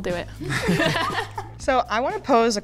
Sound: all laugh

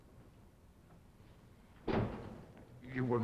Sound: door closing

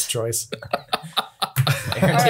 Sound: laughs

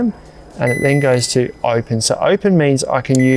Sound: fridge beeps

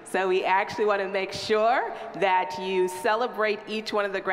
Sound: none

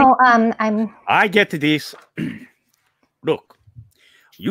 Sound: coughs

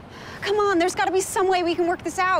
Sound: sighs

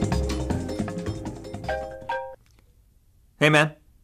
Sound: cell phone rings

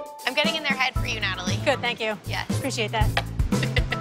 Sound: laughs

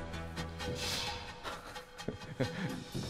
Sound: thud, thud

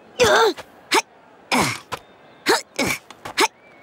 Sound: groaning; grunting

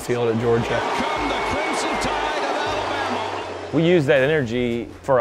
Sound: crowd boos

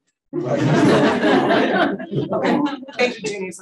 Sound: audience laughing

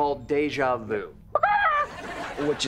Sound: clucking

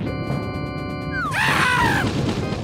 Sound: Mario screams

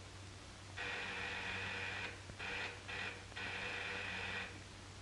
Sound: doorbell rings

